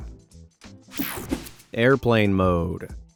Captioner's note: scene change whirs